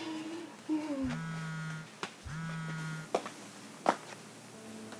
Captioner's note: woman chuckles; cellphone buzzing